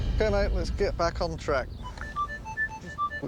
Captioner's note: beeping